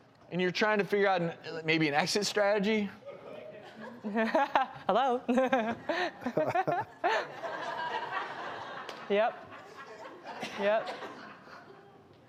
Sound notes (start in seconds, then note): 5.1 laughs; 9.9 laughter